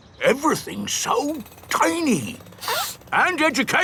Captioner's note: sniffs